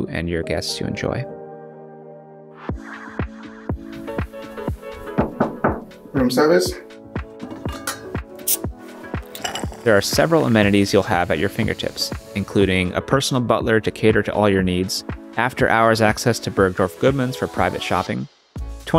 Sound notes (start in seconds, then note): 3.0 upbeat music; 5.1 door knocking